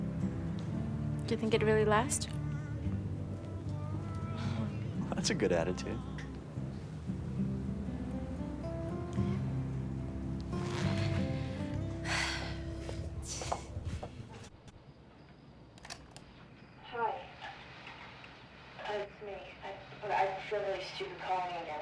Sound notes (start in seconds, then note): 10.6 sighs; 15.8 click